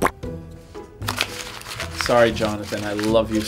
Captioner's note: paper crumpling